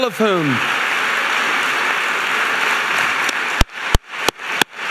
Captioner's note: audience applauding